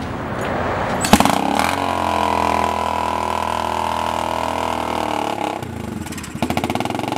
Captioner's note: motorcycle engine running